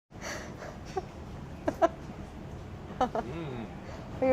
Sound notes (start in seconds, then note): 0.2 laughs